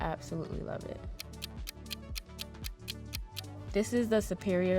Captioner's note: clock ticking